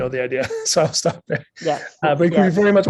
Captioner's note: chuckles